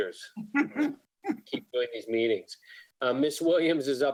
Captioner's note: woman laughs